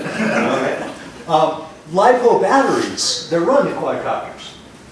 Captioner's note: laughter